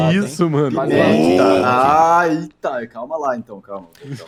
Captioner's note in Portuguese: grito